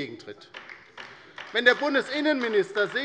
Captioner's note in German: Beifall bei der LINKEN